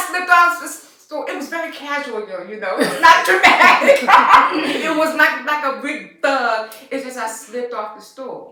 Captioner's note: laughter